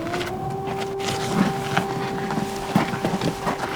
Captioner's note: siren